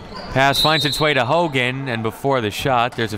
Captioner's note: referee blows whistle